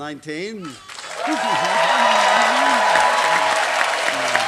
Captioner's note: applause